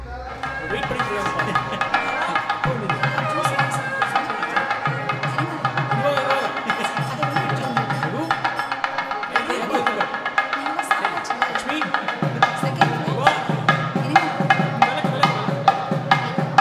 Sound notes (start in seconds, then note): 3.1 indistinct chatter